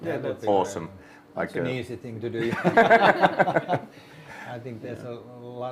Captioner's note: all laugh